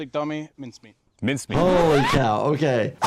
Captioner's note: audio squeaking